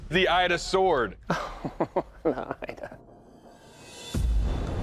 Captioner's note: laughs